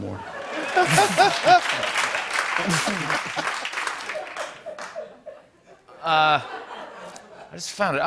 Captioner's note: laughter and applause